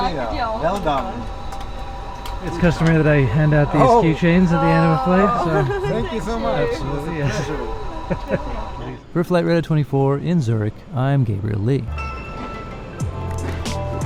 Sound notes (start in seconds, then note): 5.7 laughs; 11.9 instrumental music